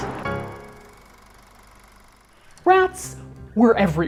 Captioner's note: projector whirring